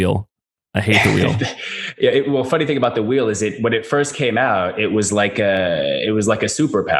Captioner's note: laughs